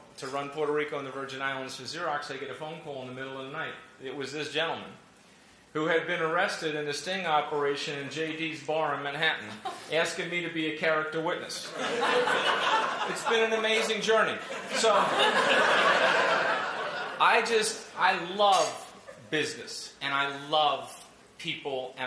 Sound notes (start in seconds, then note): 14.4 laughter